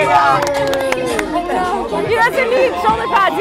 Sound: scattered clapping

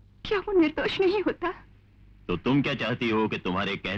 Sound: none

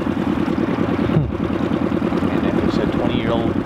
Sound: hums

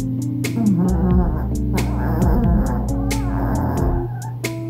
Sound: she's real snoring

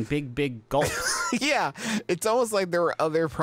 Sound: laughs

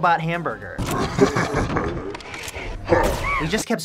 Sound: menacing laughter

